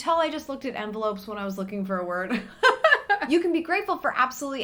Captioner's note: laughs